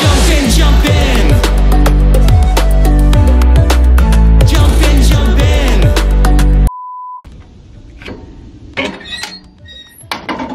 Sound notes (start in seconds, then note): 2.0 soft electronic music; 6.7 beeps; 7.8 creaks